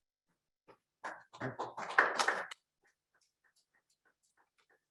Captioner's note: applause